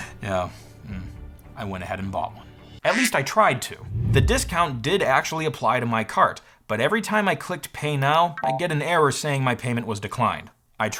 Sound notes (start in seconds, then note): 2.9 duck Quack